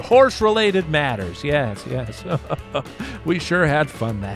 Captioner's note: chuckles